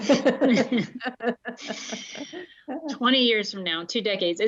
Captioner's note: laughter